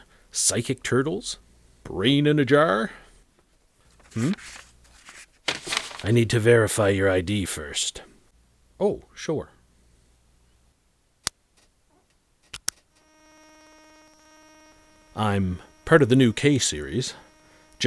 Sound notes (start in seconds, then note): 12.9 scanner beeping